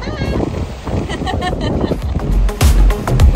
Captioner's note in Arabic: ضحك